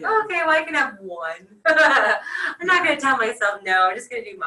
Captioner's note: laughs